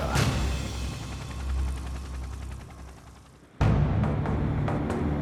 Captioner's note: helicopter whirs; intense music